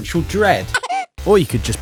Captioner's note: baby crying